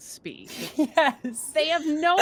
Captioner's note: chuckles